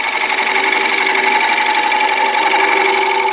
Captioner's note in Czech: Zvuk soustružení